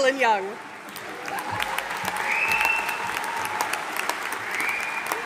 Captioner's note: audience applauding